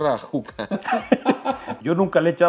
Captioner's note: laughter